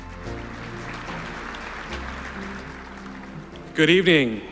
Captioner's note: applause